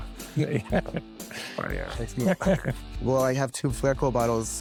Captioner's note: chuckles